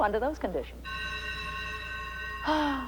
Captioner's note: school bell rings